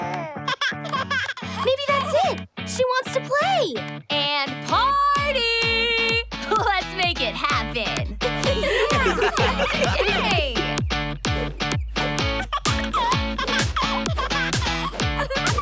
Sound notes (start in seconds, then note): 0.0 laughs; 8.2 all laugh; 11.2 laughs